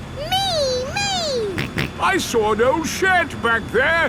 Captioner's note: snorts